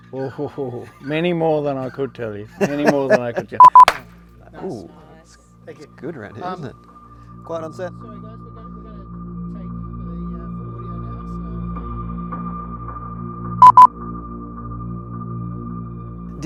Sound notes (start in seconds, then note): 3.6 beeps; 3.7 claps hands; 8.6 ominous music; 8.6 people chattering faintly; 13.6 device beeps